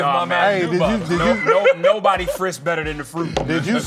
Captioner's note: laughing